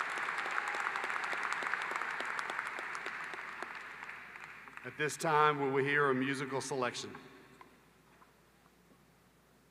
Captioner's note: applause